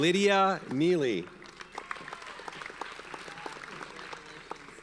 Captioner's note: audience applauds